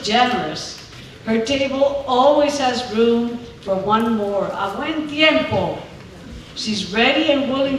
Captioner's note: speaking spanish